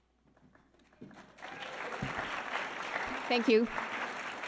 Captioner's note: audience applauding